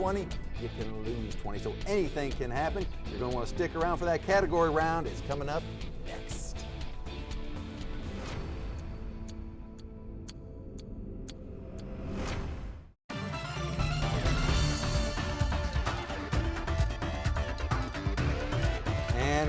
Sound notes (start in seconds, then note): 9.0 clock ticking with background music; 13.1 upbeat music